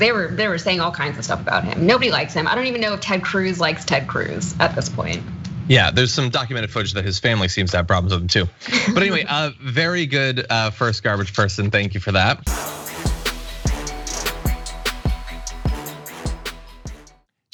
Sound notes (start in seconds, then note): 8.6 laugh